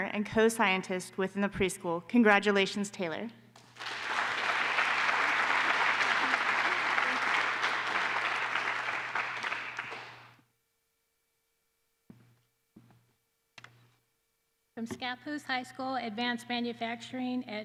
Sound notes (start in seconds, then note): 3.6 applause